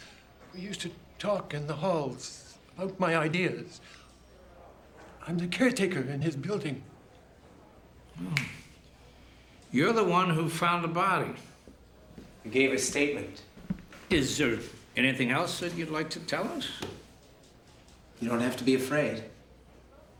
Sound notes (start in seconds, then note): 8.3 clicks fingers